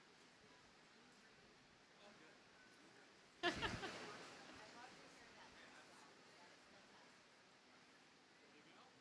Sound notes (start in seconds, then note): 3.4 audience laughing